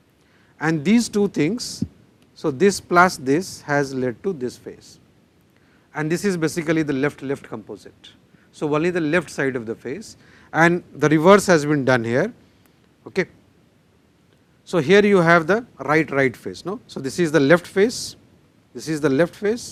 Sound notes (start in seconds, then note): 12.6 click